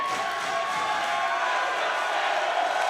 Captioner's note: cheers